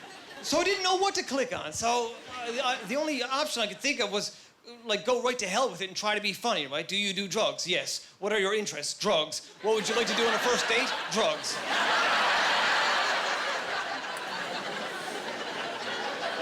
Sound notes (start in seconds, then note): 11.7 laughing